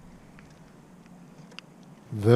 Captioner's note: click